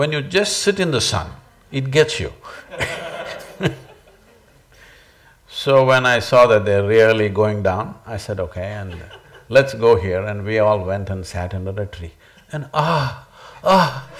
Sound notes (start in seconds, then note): 2.6 laughs